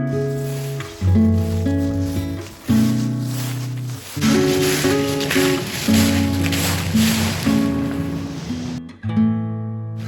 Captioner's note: sound of rustling leaves